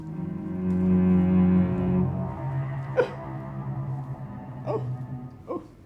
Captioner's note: sobs